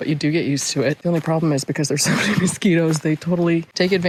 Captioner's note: laughs